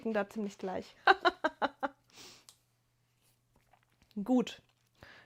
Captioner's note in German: gelächter